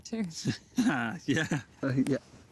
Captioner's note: laughing